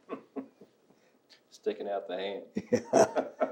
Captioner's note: laughs